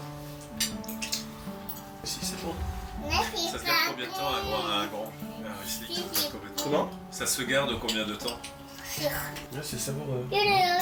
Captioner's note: sound of dishes clinking and family conversation